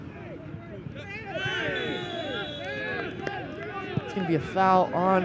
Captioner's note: whistle blows